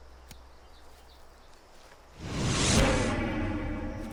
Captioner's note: air whooshes